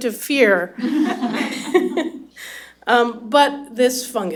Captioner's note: laughter